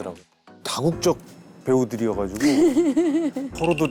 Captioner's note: laughing